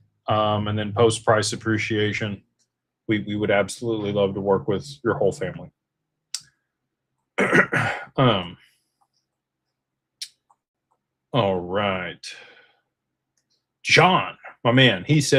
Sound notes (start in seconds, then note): 7.4 clears throat